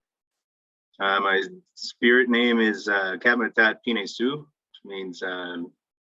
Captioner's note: speaking in foreign language